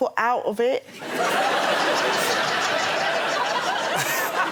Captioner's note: laughter